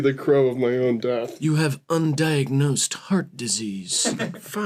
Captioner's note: crow voice